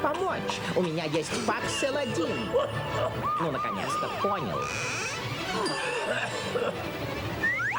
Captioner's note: sound of ambulance siren